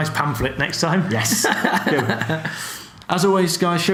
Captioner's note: laughs